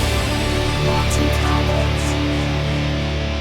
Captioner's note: synthesised voice